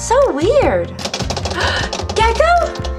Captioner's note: knocking